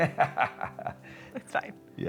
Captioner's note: laughing